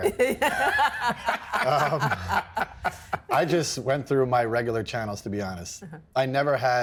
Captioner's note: laughing